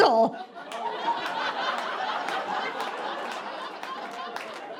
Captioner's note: audience laughing